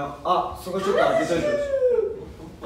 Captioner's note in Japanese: 裏声